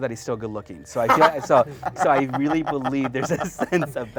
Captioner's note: chuckling